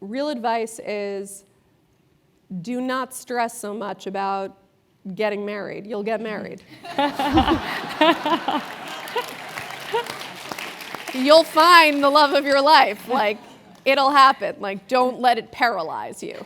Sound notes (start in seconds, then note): 8.7 applause; 8.7 laugh